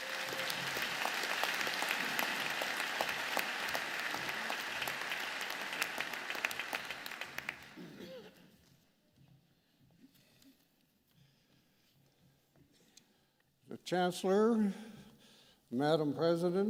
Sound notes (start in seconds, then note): 2.2 applause